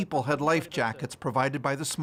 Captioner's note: speaking French